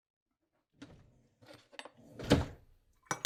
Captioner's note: drawer opens and closes